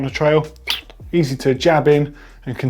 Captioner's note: puncture sound